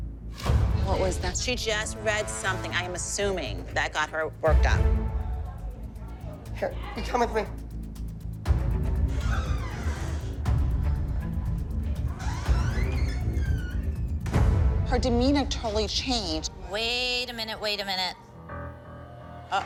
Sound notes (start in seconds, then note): 9.1 door creaks